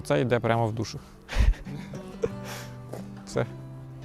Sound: laughs

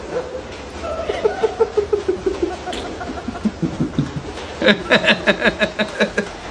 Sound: laughing; dog splashing

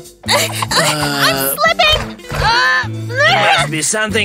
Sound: loud grunting

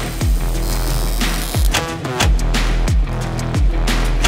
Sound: welder sparking

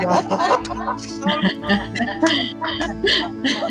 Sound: pleased laughing

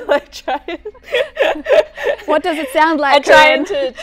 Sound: laughter

